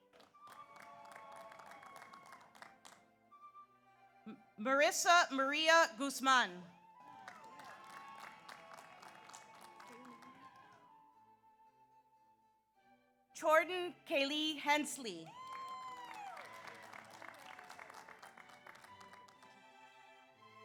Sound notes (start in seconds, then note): 0.0 audience applauds; 0.4 audience cheers; 7.0 audience applauds; 7.0 audience cheers; 15.2 audience applauds; 15.3 audience cheers